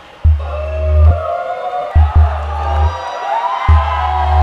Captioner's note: All shouting